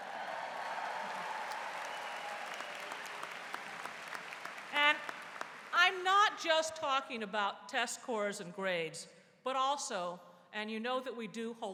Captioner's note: �cheers and applause�